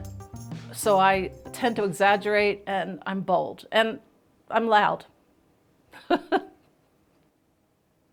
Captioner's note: laughs